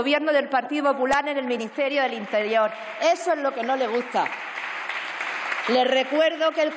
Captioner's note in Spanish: Aplausos